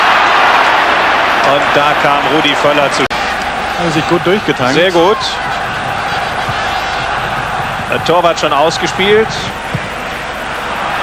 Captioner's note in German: jubel